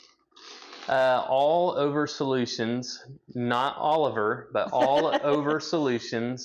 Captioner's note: laughs